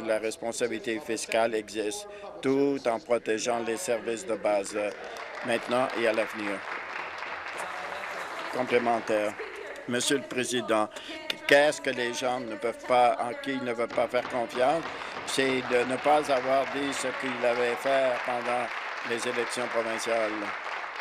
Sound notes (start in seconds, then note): 8.3 applause; 19.0 applause